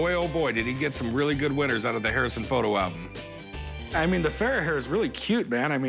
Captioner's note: none